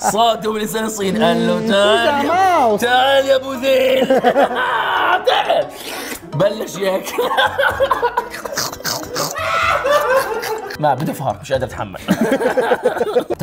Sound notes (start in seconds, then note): 3.8 laughing; 5.7 slurpes; 6.9 laughs; 12.0 both laugh